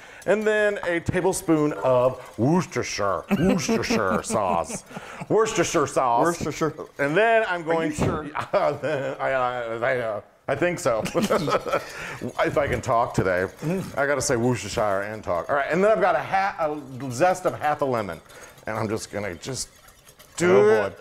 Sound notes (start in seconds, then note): 3.2 laugh; 11.0 laugh